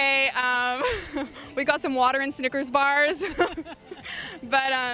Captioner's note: chuckles